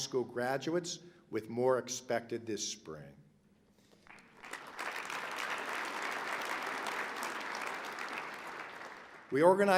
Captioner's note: applause